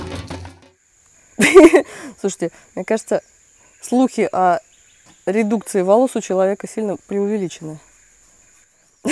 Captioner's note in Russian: Смех